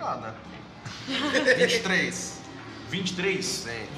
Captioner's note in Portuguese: risos